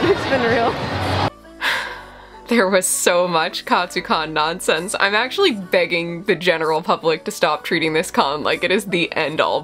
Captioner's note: sigh